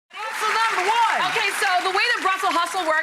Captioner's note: audience applauses